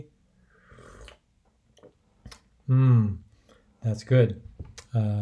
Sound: slurping

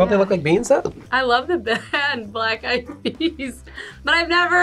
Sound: laughs

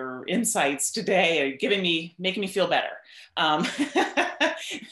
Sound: laughs

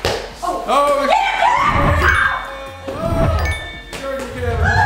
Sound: yelling

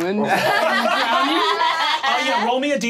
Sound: all laughing

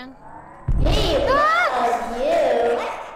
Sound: Tattletail, loud voice

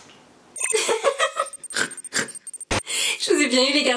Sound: laughs

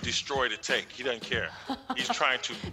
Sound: laughs

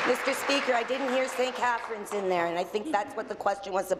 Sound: applause

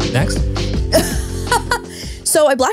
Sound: laughs

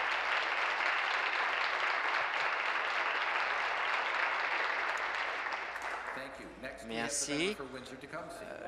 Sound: applause

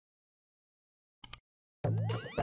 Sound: mouse Click

